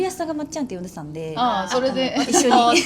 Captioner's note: laughs